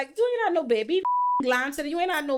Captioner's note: beep